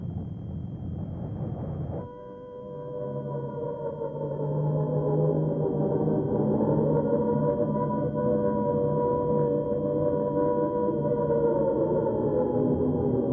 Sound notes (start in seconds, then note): 0.1 plane engines roaring; 2.8 air raid sirens blaring